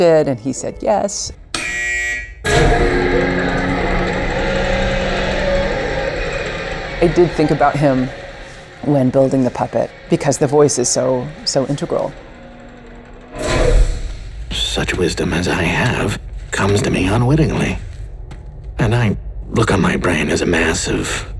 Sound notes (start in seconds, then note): 1.9 buzzing; 2.7 cranking